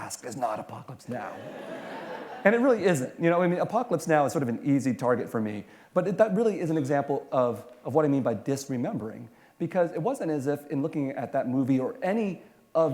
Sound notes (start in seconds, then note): 1.3 laughter